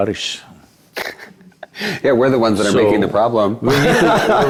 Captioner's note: laughs